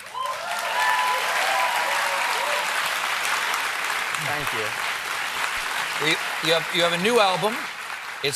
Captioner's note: cheers and applause